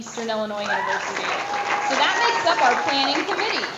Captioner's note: audience applause